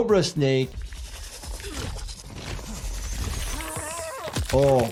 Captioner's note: fighter groans